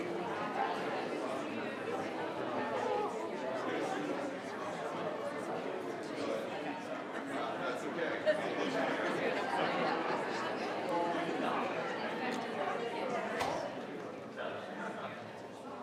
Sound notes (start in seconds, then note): 5.8 group quietly conversing